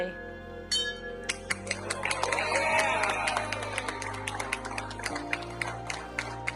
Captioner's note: bell ringing; crowd applauding